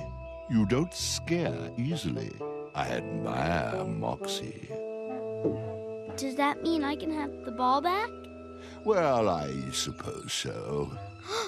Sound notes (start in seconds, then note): 5.3 gulp